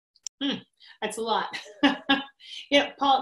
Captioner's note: laughs